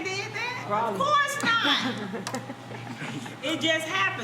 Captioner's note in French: Rires